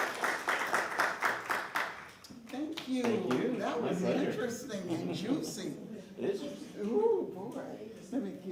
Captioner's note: applause